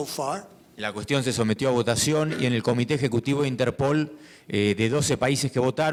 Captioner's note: speaking in foreign language